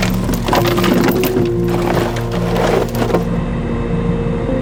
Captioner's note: chains clanging